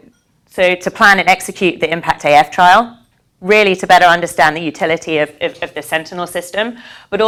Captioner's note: none